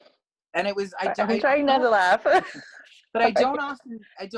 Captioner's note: laugh